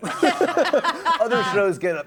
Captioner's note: laughs